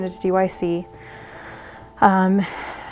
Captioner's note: breathes